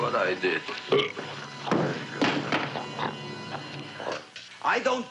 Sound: burping; thumping

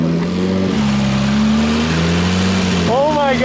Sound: engine revving

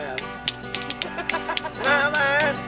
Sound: woman laughing

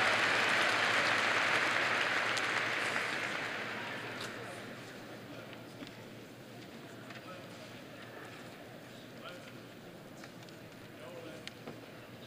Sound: cheers and applause

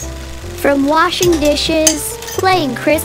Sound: dish-washing sounds

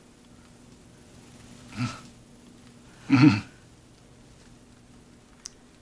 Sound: grunts affirmatively

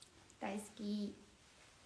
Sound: japanese

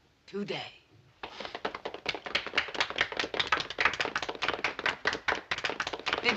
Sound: applause

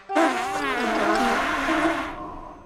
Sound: blowing vigorously

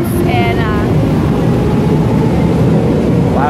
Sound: train sound

